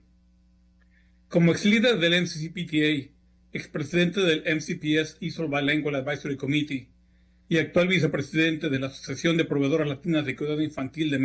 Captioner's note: speaking spanish